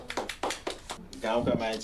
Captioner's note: group applauds